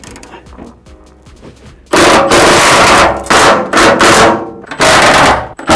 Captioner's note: drill whirring